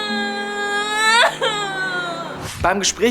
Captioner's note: Weint laut